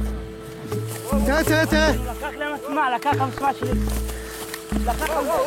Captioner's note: Arabic spoken audio